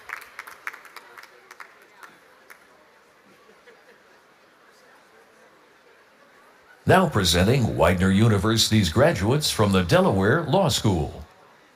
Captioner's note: applause